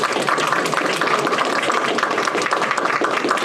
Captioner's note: applause